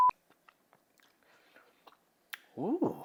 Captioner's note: host gulps